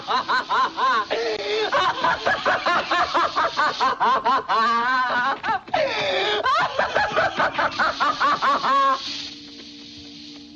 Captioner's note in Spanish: carcajadas